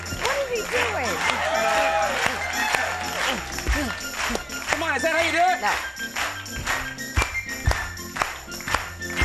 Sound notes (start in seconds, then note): 0.0 audience laughing; 1.6 audience clapping